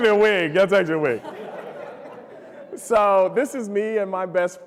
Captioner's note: laughter